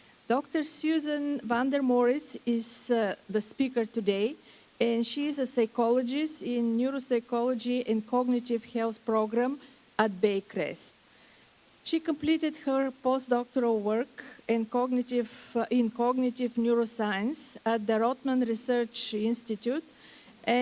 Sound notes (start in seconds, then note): none